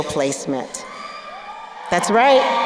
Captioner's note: crowd cheering